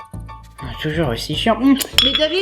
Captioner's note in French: À voix basse